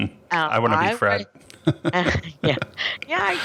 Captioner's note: laughs; both laugh